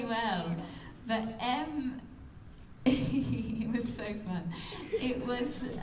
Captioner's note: laughs